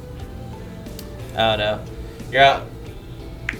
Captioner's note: faintly speaking